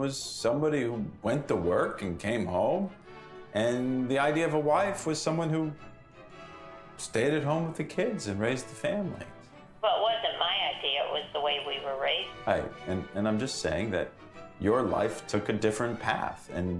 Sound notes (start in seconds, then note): 9.4 on Speakerphone